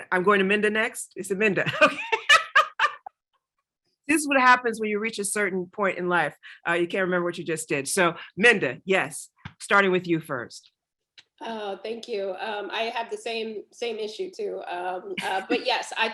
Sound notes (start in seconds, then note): 1.6 laughs